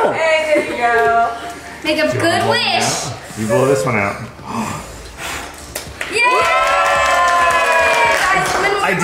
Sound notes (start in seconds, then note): 4.4 exhales; 4.4 inhales; 6.0 group cheering